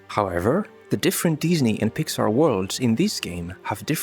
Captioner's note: none